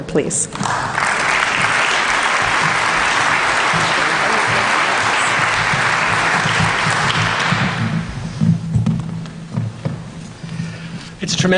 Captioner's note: applause